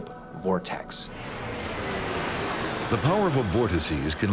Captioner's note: plane engine roars